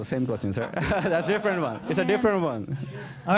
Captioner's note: laughter